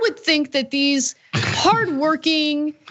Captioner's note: cough